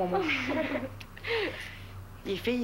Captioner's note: Rires